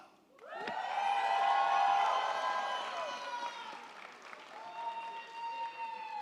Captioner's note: crowd cheering; crowd clapping